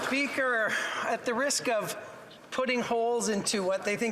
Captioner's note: some Applause